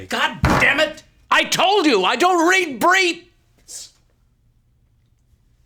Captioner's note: winces